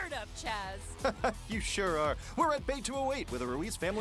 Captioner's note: laughs